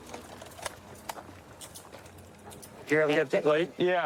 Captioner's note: handcuffs clicking